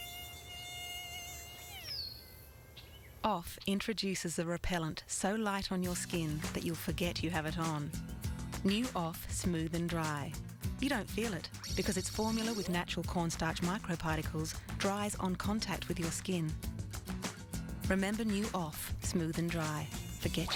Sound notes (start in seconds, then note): 0.1 buzzing fades